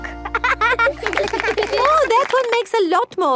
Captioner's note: laughing